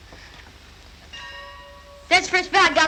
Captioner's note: school bell